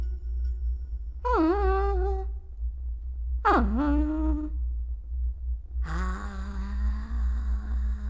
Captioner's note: emotive melodic humming continues